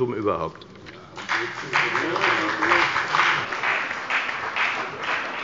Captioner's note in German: Beifall bei der FDP und bei Abgeordneten der CDU